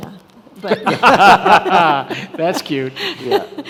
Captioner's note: all laughing